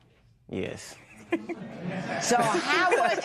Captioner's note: laughs